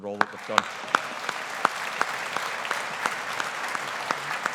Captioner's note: audience applauding